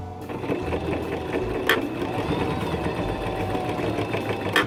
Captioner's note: whirring